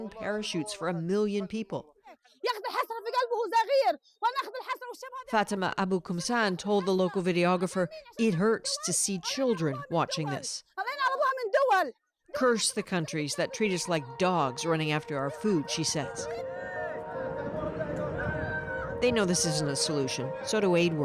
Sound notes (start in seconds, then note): 4.5 speaking alternate language; 15.3 speaking alternate language